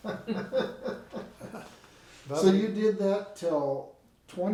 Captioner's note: laughing